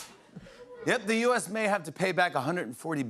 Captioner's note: normal voice